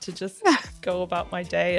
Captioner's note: laughs